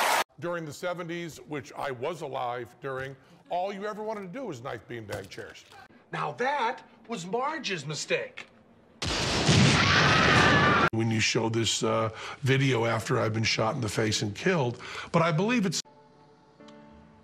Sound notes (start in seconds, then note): 9.1 thunder; 9.5 screaming